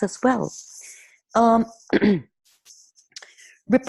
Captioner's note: clearing throat